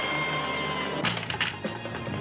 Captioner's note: gun clattering